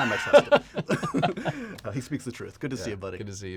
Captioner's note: laughter